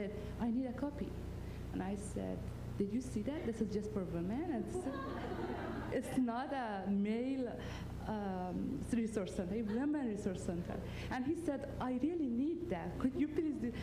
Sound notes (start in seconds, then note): 4.7 laughter